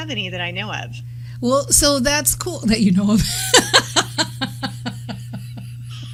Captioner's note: laughter